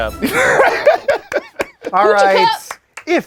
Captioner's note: laughing